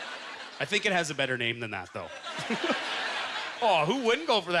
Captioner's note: laughs